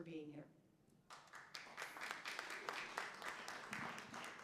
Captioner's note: applause